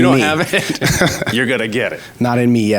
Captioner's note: laughs